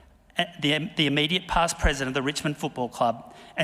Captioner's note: none